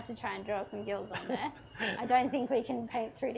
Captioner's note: chuckles